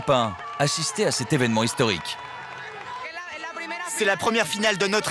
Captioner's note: applause